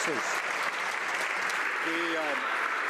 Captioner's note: some Applause